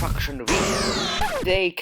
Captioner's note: death Ray Noise